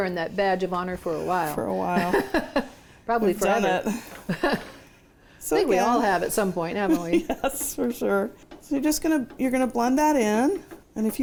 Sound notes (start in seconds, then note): 1.9 chuckles; 3.8 chuckles; 6.9 laughs